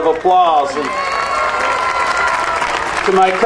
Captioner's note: audience cheering and applauding